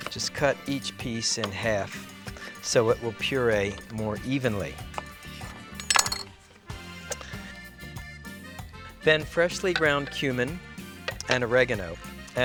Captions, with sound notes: just cut each piece in half so it will puree more evenly. (utensil clanking) (upbeat music) Then freshly ground cumin and oregano,